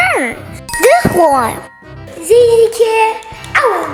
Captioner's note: magical ting